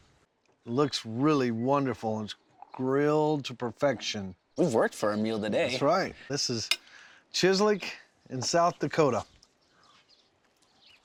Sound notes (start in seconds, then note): none